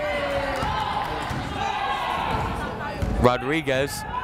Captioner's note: yelling